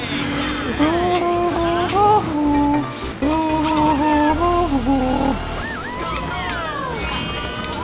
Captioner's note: nervously humming